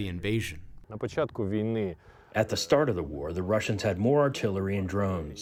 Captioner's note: through translator